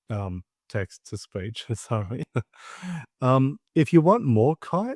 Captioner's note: laughs